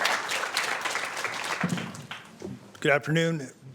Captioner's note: applause